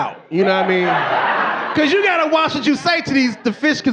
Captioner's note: audience laughing